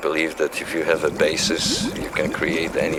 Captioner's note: liquid burbling